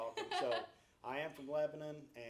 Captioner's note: laughs